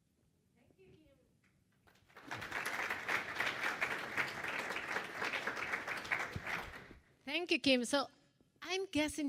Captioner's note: applause